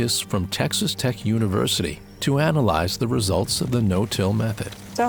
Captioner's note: leaves rustling